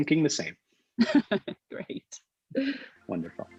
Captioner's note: chuckles